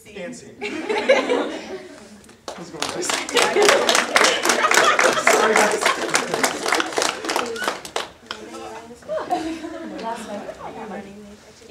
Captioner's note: audience applause